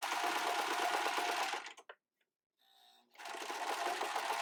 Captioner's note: sewing machine tapping